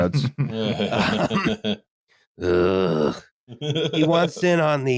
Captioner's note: laughter